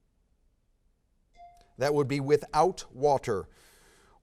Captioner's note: bell dings